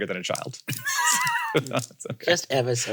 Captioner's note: laugh